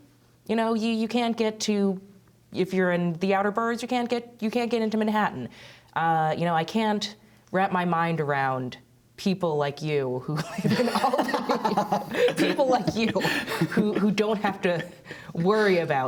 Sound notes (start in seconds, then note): 10.4 laughter